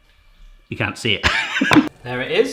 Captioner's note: laughs